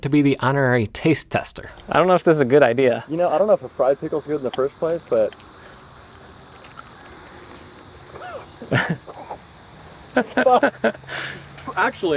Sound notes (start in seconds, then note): 5.7 laughs